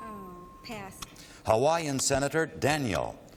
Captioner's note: ping